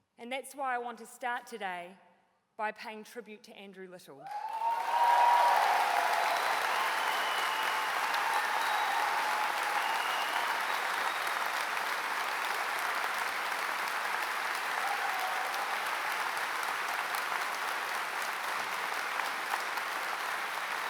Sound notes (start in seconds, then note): 4.9 applause